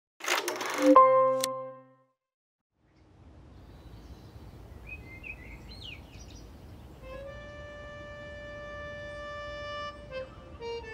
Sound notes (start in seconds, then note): 0.9 digital ding; 3.4 birds chirping; 7.0 gentle orchestral music